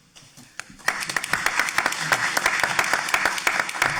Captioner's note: audience applauding